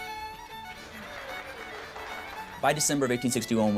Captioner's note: applause